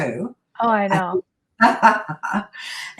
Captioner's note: laughs